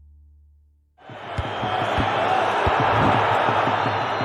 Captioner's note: bersorak masyarakat